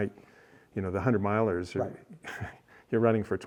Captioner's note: chuckles